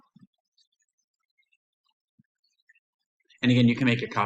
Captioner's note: silence